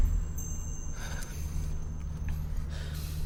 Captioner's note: sighs